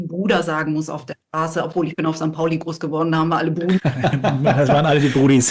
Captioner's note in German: gelächter